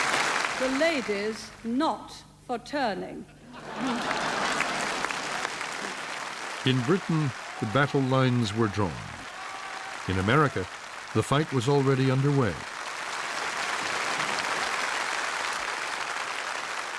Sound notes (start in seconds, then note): 0.0 laughter and applause; 4.4 laughter and applause; 13.0 applause